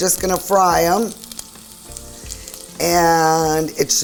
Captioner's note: oil sizzling